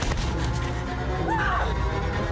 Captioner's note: screams